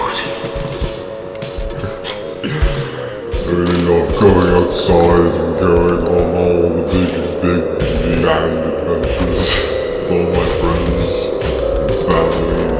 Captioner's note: snort laughing